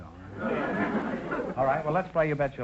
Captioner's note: audience laughter